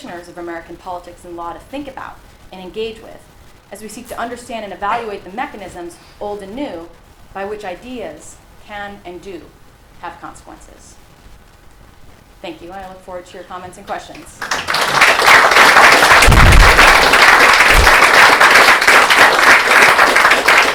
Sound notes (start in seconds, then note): 14.3 applause